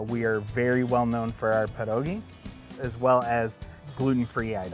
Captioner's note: none